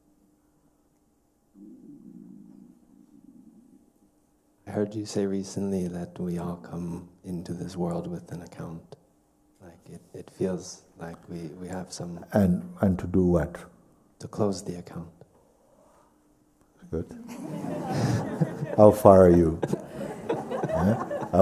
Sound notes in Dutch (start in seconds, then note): 17.1 gelach